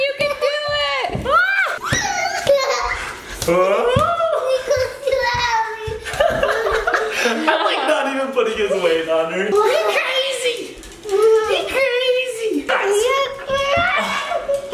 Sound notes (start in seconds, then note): 1.9 giggling